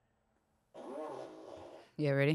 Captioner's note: fart machine farts